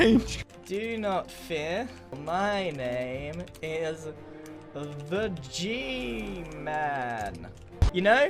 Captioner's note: typing; typing